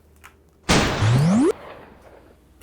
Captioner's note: gunshot